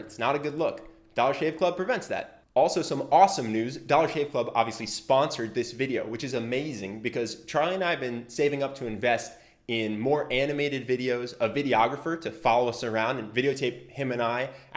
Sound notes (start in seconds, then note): none